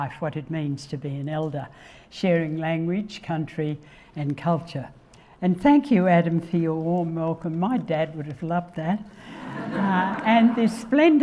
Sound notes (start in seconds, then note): 9.3 audience laughing